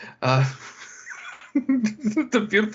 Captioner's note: laughs